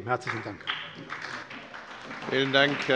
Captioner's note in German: Beifall bei der SPD